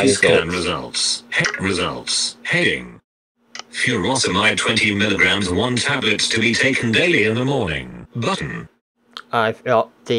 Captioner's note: computer voice